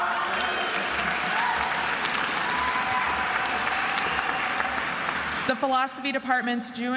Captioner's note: attendees applauding and cheering